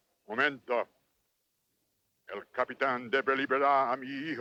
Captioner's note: Ramirez speaks Spanish; Victorio speaks Spanish